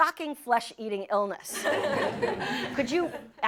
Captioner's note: laughter